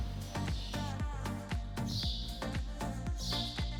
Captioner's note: birds chirping